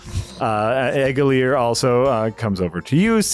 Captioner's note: none